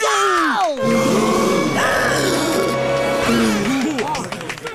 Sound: gasping

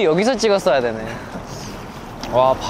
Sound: laughing

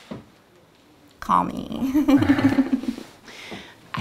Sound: giggling

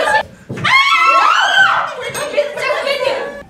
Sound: scream

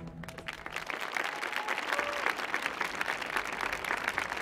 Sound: applause

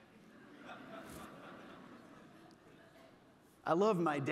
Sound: audience laughing

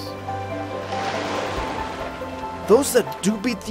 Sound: water rushes

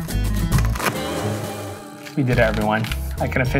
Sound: water splashing

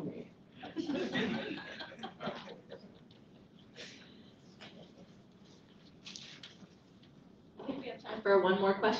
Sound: laughter

